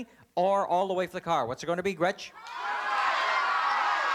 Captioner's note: cheering